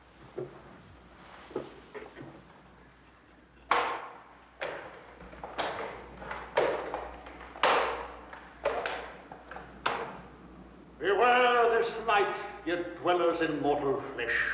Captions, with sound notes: (footsteps banging) - Beware this night, you dwellers in mortal flesh.